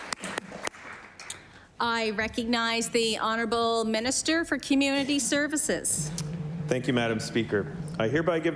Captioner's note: applause